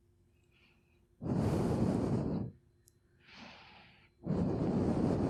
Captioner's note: exhales deeply